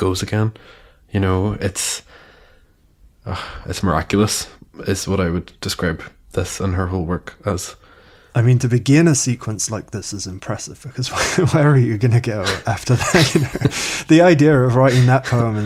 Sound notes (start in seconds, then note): 12.4 they laugh